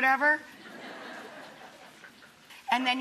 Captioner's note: audience laughing